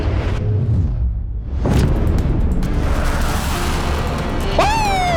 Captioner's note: jet whooshing